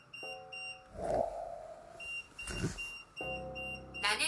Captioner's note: beeping; beeping